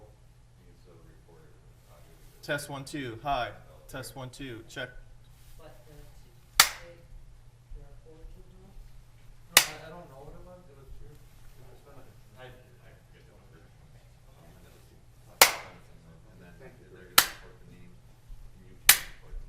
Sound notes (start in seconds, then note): 2.8 gavel